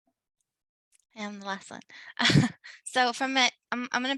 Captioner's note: chuckles